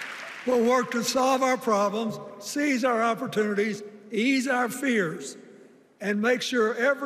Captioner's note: cheers and applause